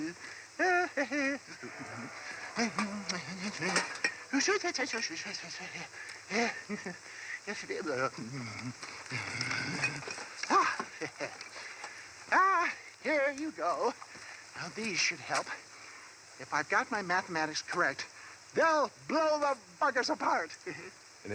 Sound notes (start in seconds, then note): 0.0 humming; 2.2 humming; 8.2 humming